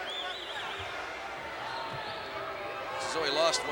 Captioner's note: crowd booing